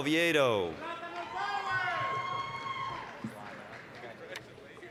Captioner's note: applause, cheering